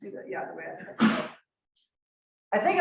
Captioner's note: coughs